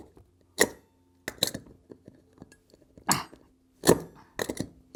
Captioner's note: metal clanking repeatedly